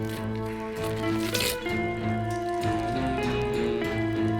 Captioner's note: wet squelching